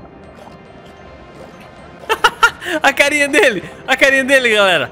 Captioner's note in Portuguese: risos